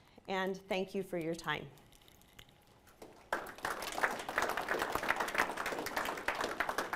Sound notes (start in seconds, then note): 3.0 students applauding